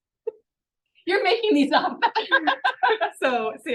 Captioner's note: laughs